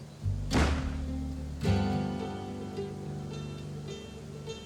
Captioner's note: gun firing